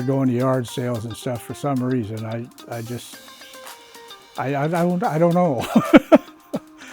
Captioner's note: laughs